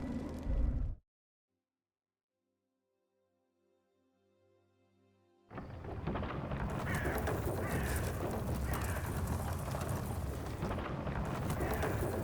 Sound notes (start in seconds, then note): 5.6 item continues rattling; 5.6 item rattling; 6.7 birds squawking